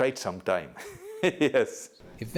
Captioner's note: laughter